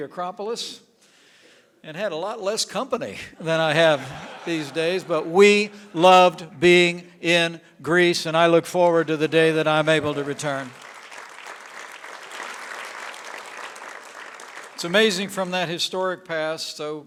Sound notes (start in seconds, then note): 3.4 laughter; 8.9 applause